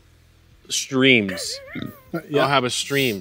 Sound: laughs

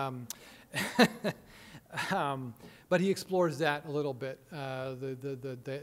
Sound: chuckling

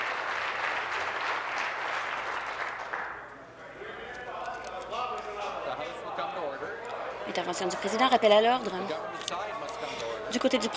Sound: applause

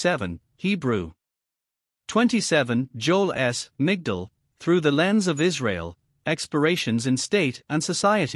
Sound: Hebrew

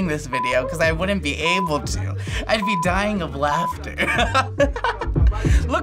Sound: chuckles; laughs

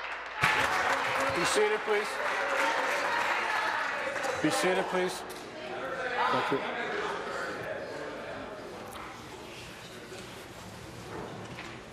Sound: applause

